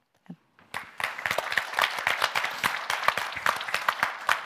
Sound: audience clapping

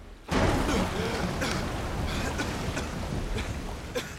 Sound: coughing

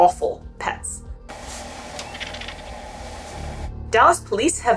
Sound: background music; vulture vocalisations in clip

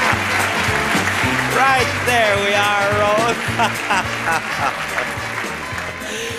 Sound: Bob laughing; laughing

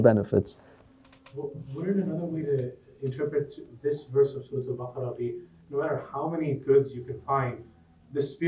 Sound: Arabic

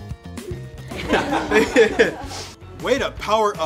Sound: all laughing

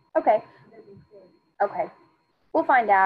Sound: student speaking faintly

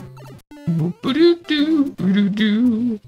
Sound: hums

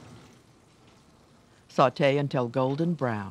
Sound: voiceover

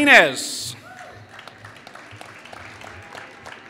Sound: applause

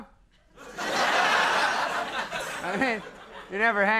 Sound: audience laughing

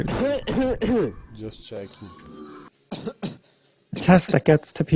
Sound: coughing, 'Just checking'

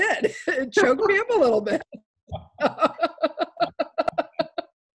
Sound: laughs

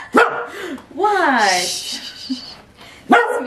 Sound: laughs; gasp

